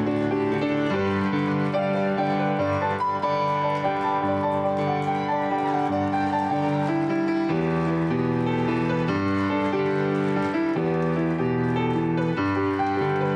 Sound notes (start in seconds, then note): 6.8 applause